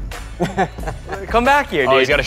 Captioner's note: laughs